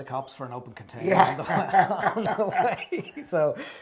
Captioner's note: laugh